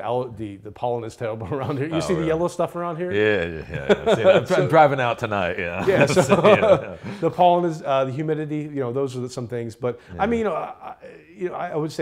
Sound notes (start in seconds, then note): 5.6 laughing